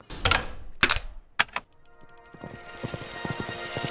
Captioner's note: clacking; uplifting atmospheric music